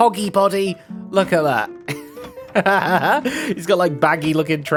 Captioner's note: laughs